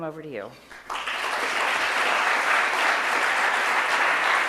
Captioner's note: audience applauds